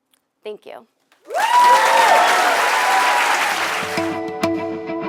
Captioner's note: applause